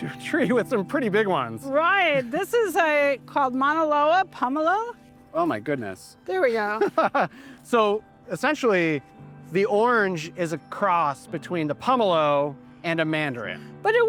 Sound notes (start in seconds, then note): 6.7 laughs